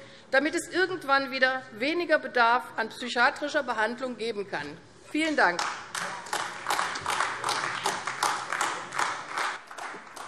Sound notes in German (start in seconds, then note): 5.5 Beifall AfD